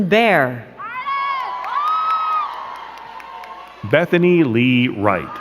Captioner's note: crowd cheering and clapping